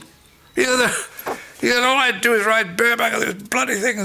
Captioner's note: laughs